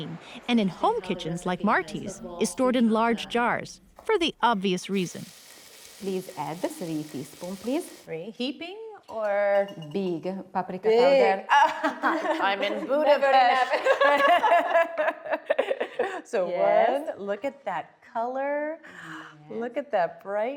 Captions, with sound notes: And in home kitchens like Marti's, is stored in large jars for the obvious reason. -Please add 3 teaspoons, please. -Heaping or...? -Big. -Big? Oh. [ Laughs ] [ Laughter ] So one. look at that color. Look at that brightness.